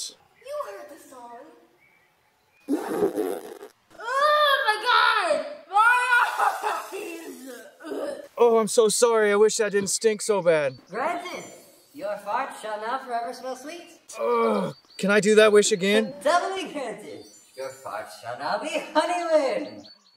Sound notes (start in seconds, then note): 2.6 wet fart noise; 7.0 gags